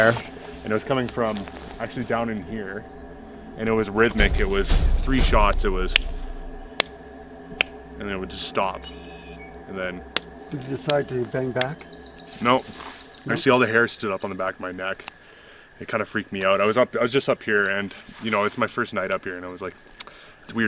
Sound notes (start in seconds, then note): 6.7 slaps hand